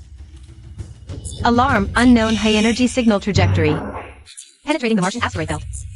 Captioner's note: alarm